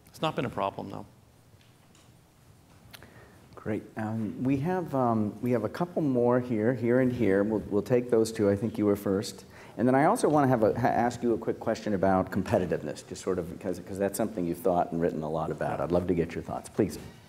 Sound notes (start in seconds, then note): none